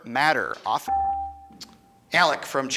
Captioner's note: buzzer chimes